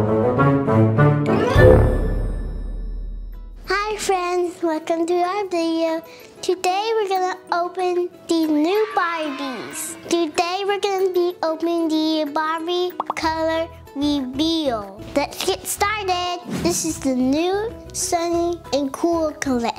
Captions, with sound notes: (fun, bouncy music) - Hi, friends, welcome to my video. Today, we're gonna open these new Barbies. (kids cheer) Today, we're gonna be opening the Barbie Color Reveal. Let's get started! This is the new Sunny n' Cool collection.